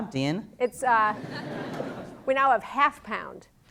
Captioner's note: laughter